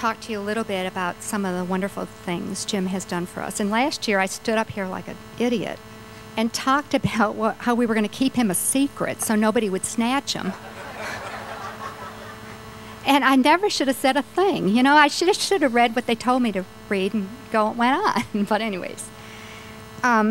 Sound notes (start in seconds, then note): 10.4 laughter